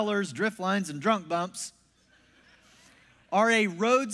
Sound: congregation laughs

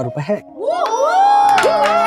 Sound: cheering and applauding

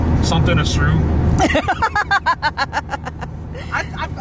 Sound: laughs

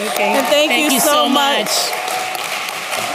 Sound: applause

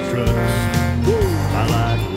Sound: horn blows

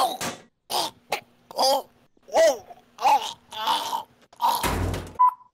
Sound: choking noises

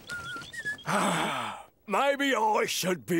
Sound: sighs

